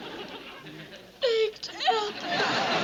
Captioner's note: sobs